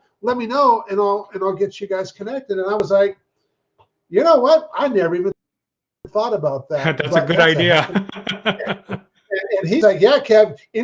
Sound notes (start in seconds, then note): 6.8 chuckles